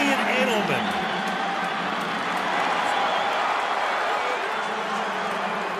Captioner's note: cheering